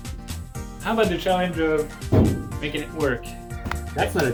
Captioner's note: taps bonnet